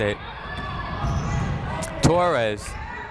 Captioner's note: people shouting in the crowd